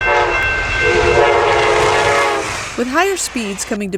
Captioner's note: train bells and whistle